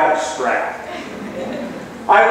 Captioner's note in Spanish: laughs